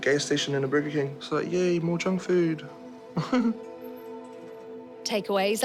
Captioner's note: chuckles